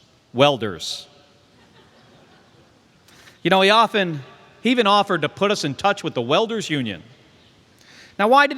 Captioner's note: laughter